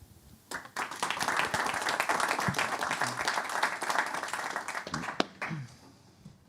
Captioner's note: applause